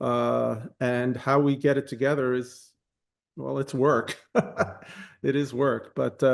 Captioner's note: laughs